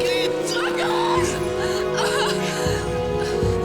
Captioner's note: Mago shouting in foreign language; Biricrit shouting in foreign language; Biricrit sobbing